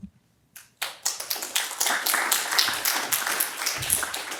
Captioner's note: applause